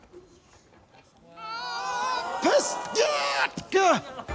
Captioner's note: strains; grunts